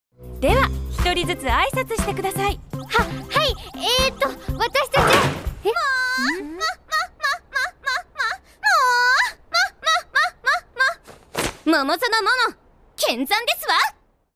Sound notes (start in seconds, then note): 5.6 laugh